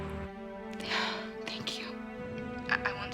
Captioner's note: sighs